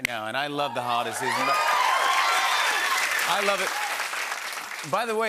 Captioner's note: cheers and applause